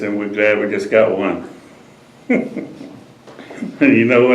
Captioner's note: laughs